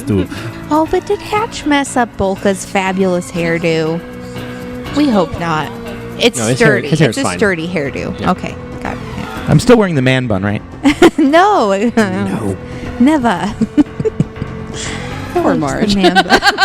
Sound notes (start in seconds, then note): 13.4 laughing; 15.9 chuckle